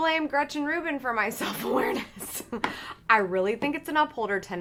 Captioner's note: laughs